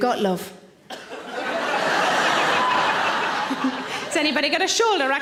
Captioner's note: audience laughing